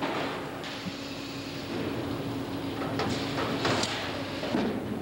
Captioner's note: machinery running